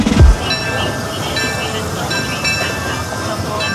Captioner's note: bell clanging